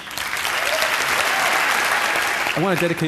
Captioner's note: applause